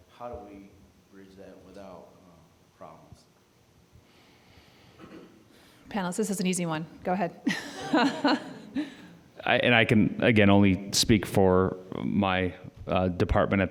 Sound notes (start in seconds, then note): 7.5 audience laughing